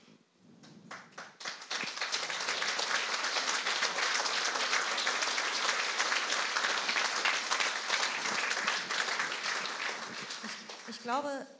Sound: applause

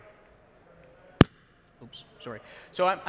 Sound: popping sound

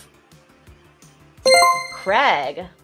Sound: chime rings

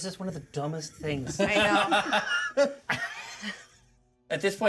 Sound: laughs

